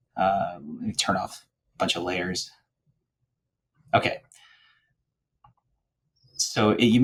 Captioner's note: muttering